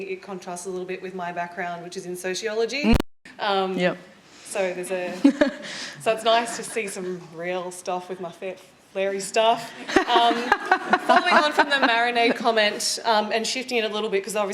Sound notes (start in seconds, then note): 5.0 laughter; 9.2 laughing